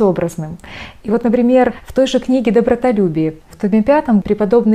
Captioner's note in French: en grecque